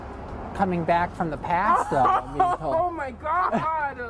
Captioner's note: people laughing